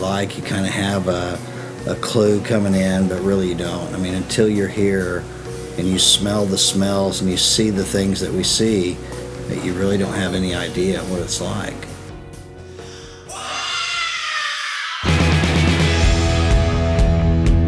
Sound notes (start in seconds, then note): 13.2 scream; 15.0 rock music